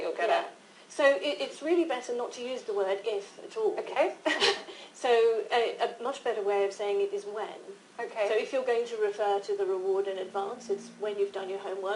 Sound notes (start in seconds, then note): 4.2 laughter